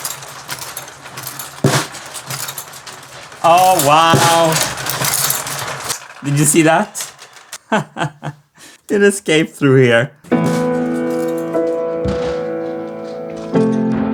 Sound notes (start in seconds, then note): 7.5 laughing; 10.4 sad music